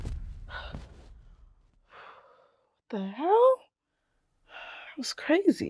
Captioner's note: dramatic music; heavily exhaling